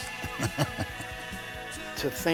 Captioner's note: laughing